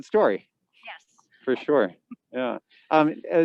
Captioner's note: chuckles